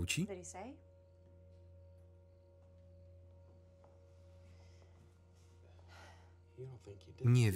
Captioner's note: tense music; crickets chirping